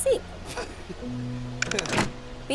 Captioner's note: light chuckle